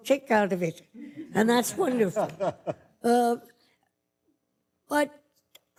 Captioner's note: light laughter